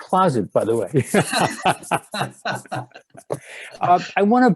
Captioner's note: laughing